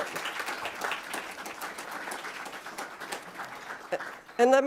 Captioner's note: applause